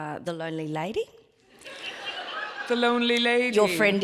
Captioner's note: audience laughs